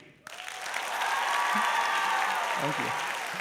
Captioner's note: applause; cheers